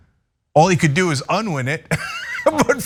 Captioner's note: laugh